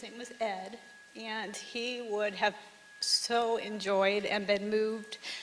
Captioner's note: none